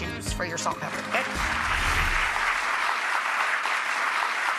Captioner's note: applause